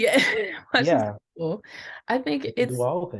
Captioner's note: laughs